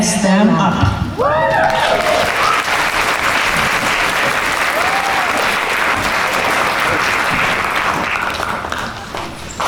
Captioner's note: applause